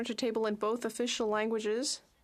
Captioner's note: speaking French